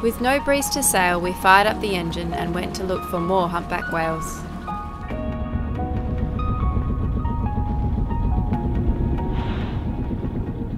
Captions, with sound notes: With no breeze to sail, we fired up the engine and went to look for more humpback whales. (motor whirring)